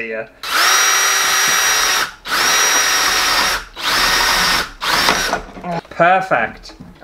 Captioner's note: drill Sounds